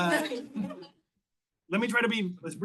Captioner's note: all laugh